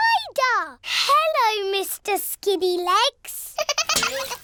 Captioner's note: giggling